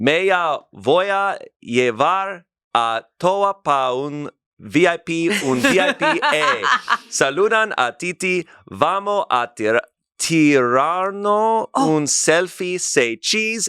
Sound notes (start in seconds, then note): 0.1 speaks foreign language; 5.3 laughs; 7.4 speaks foreign language